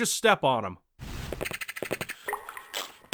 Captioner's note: rats chittering